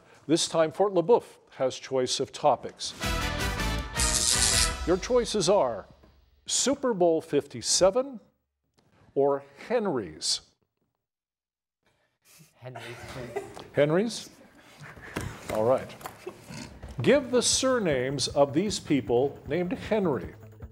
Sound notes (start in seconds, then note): 2.9 upbeat music; 12.7 contestant laughs